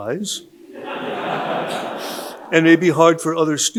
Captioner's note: audience laughing